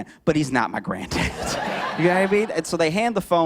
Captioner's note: laughter